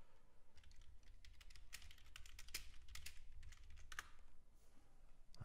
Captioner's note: keyboard clattering